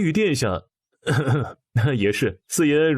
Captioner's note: cough